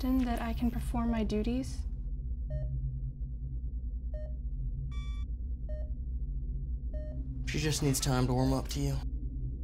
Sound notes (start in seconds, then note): 2.4 device beeping